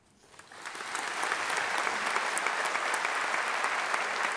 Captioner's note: audience applauding